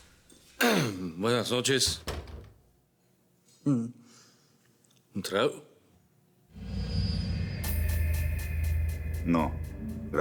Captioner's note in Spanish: Ruido al abrir la puerta; Bernardo aclara la garganta